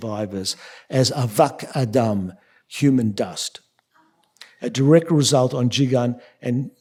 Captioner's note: yiddish